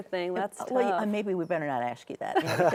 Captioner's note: guests laugh